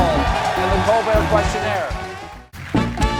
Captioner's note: cheers and applause